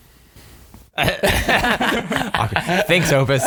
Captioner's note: all laughing